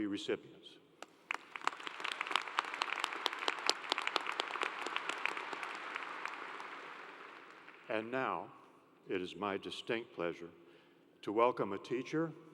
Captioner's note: applause